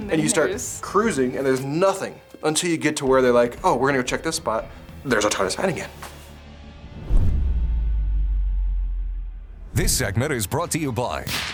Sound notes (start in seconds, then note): 6.8 logo whooshes; 11.2 gunshot fires